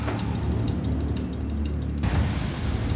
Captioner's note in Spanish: Sonido de motor